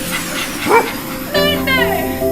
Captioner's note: dog barking